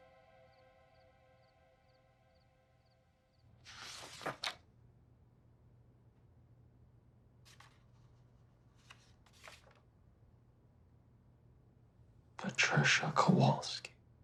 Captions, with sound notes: (pages flipping) - Patricia Kowalski.